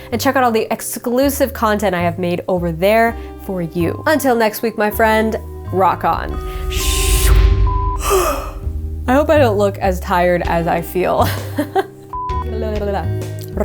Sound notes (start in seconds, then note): 8.0 yawning; 11.2 laughing